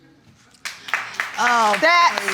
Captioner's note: audience applauding